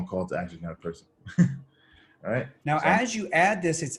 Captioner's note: giggles